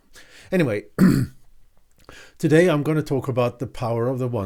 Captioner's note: clears throat